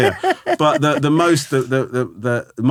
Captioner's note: laughing